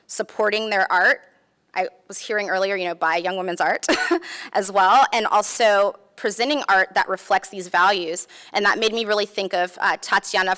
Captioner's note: laughs